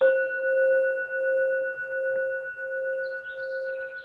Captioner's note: bowl dings